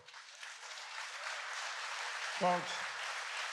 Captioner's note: applause